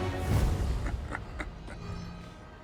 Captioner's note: laughs